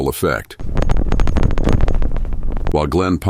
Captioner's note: rattling